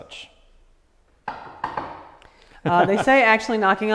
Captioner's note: knocks on table